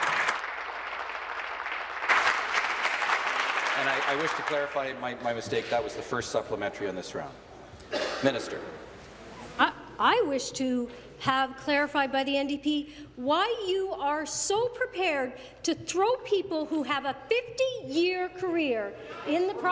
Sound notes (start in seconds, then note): 4.1 applause